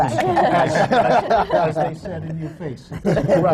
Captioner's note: laughter